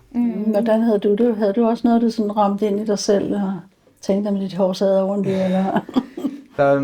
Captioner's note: chuckles